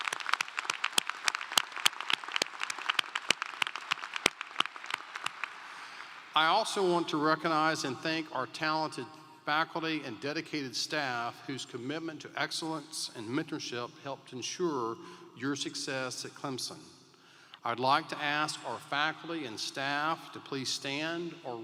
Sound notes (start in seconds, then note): 9.5 applause